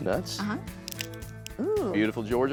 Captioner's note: cracking sound